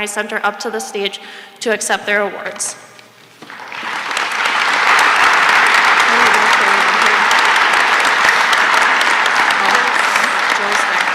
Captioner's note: applause